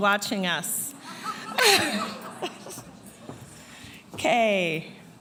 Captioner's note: laughing